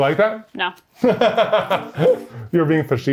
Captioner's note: laughing